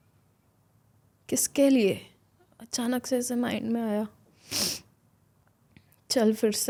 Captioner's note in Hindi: नाक से की जाने वाली आवाज़